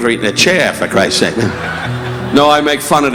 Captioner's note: audience laughing